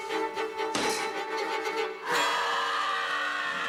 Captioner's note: screams